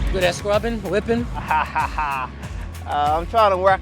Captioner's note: laughs